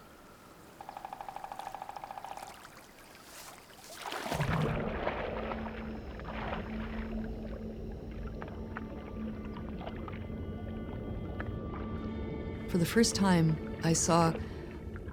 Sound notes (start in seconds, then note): 0.4 woodpecker thumping; 4.3 water bubbling